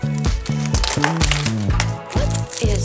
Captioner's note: paper rustles; accessories clink; upbeat pop music